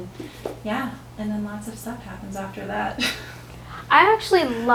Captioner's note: laughs